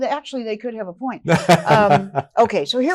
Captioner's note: laughing